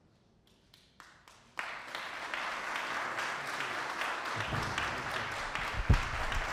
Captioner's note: applause